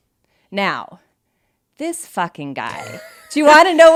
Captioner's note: laughs